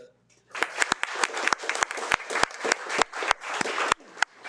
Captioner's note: participants applauds